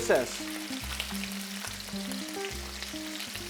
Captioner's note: sizzling sound